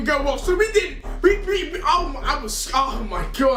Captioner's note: stammers